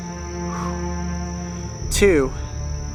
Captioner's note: exhales